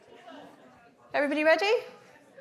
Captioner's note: audience indistinctly chattering